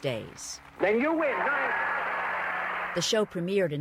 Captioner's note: applause